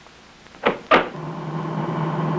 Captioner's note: door clicks; engine rumbles